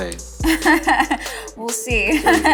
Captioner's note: laughs